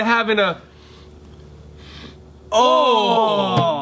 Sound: sniffing

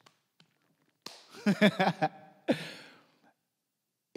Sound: laughs

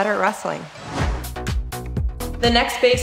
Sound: swoosh

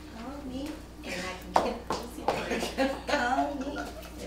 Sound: laughing

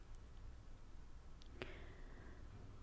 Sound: inhaling

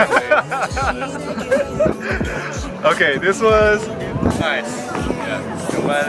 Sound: laughs

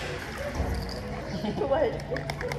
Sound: laughs ♡

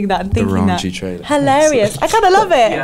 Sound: giggles

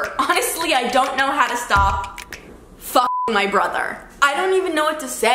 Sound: beep

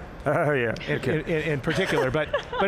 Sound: laughing gently

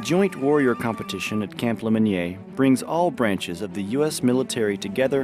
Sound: people cheering

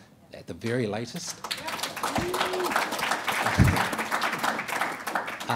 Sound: audience applauding

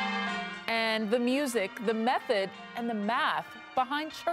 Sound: bells tolling

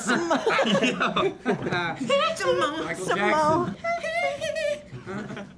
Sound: laughing and singing

